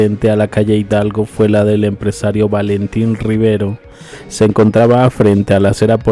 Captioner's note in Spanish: resoplido